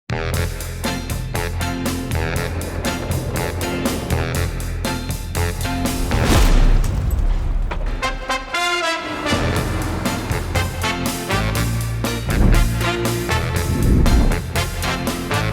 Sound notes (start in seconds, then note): 0.2 upbeat jazzy music; 2.6 subway clickety-clacks; 8.0 upbeat jazzy music